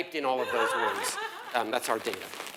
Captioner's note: laugh